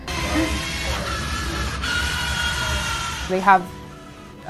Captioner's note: whirring